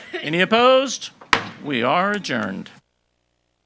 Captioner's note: hammer slamming